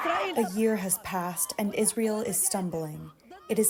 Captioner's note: through translator